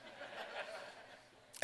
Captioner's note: laughter